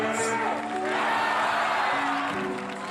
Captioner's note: crowd shouts